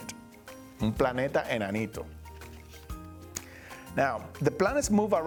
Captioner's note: speaking Spanish